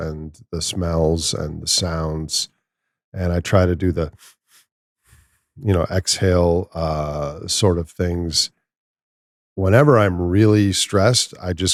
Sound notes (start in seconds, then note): 5.0 exhales